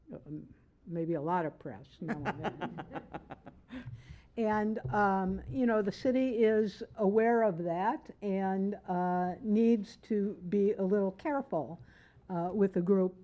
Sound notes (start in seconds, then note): 5.7 laughter